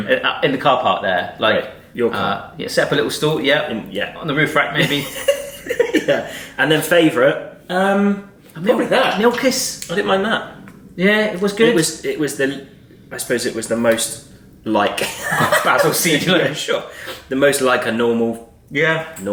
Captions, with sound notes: - In the car park there. - Like, your car. - Set up a little stool, yeah. - Yeah. - On the roof rack maybe. - (laughs) Yeah. And then favourite? Probably that. - Milkis. - I didn't mind that. - Yeah, it was good. - I suppose it was the most like- - A basil seed. - Yeah, sure. The most like a normal- - Yeah.